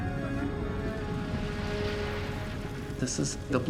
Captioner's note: fire crackling, water spraying